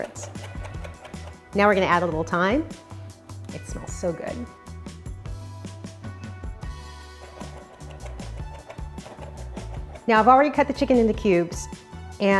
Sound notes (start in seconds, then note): 0.0 fast chopping; 5.0 upbeat contemporary music; 7.3 soft fast chopping